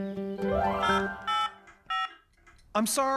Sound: cell Phone Tones

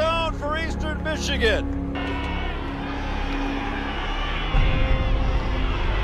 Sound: cheering

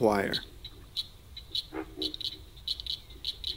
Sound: insects buzz

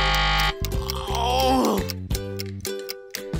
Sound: buzzing; groaning

